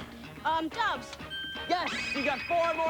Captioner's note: bell rings